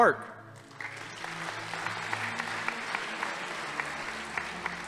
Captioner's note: audience applauding